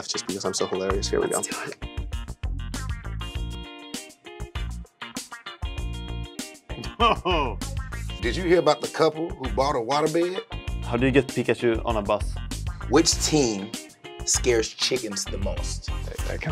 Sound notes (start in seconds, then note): 2.2 quirky music; 6.8 laughing